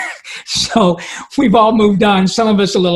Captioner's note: laughing